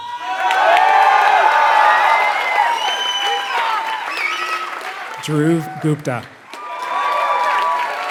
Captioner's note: applause